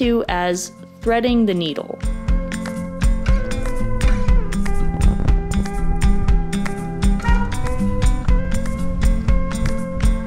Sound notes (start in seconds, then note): 7.2 honks